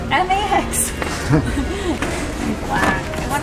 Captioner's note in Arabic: كلاهما يضحك